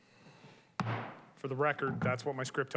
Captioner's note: gavel thuds